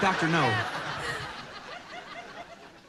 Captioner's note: laughter